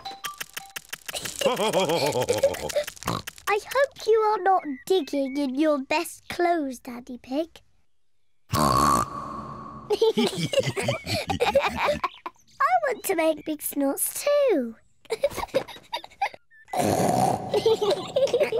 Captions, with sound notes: (BOTH LAUGHING) (OINKS) I hope you are not digging in your best clothes, Daddy Pig. (OINKS LOUDLY) (BOTH LAUGHING) I want to make big snorts, too. (GIGGLES) (SNORTS AND GIGGLES)